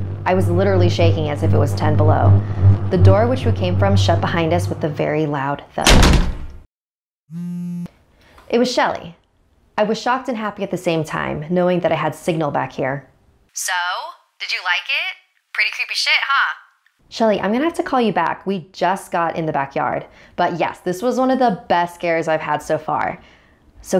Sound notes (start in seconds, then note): 5.8 thud; 7.3 phone vibrating